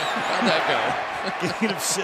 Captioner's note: laughter